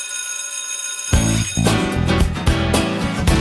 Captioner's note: ringing